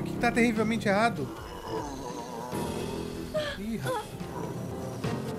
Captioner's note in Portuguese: grunhidos